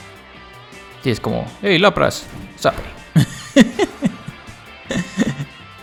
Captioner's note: laughs in Spanish